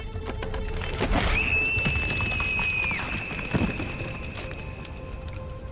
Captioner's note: scream